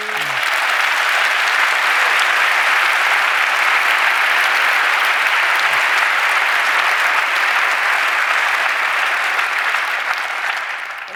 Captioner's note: applause